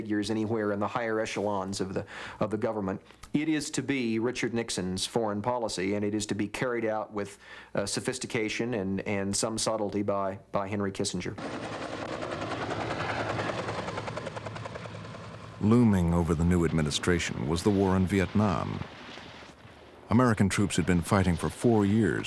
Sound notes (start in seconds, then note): 11.4 rotor blades whirring